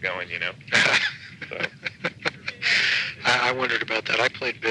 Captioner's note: laughs